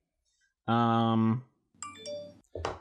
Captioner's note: Venmo notification chimes